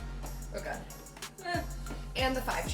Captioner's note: yelps